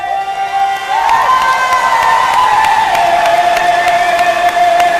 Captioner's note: audience cheering and applauding